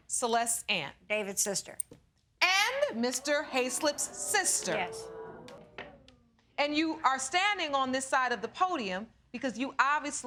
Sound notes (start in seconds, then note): 5.4 audience clamoring